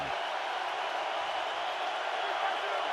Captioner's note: crowd cheering